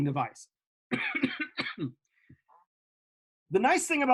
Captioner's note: coughing